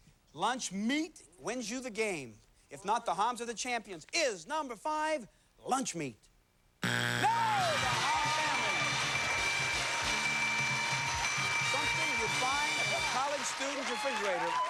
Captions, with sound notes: Lunch meat wins you the game. If not, the Hams are the champions. Is number five lunch meat? No! The Ham family! [cheers and applause] Something you'd find in a college student's refrigerator.